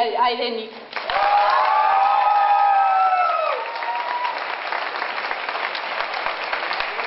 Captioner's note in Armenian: ծափահարություններ